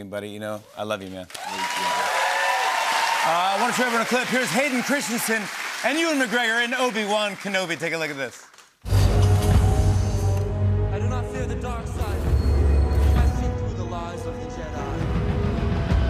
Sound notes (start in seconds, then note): 1.2 cheers and applause; 8.9 whirring